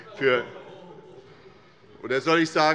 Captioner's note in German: Heiterkeit des Abg